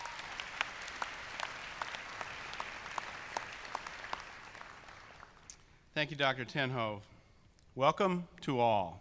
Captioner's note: applause